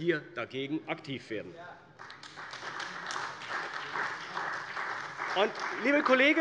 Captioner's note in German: Beifall bei der CDU und dem BÜNDNIS 90/DIE GRÜNEN